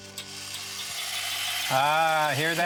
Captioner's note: toys clatter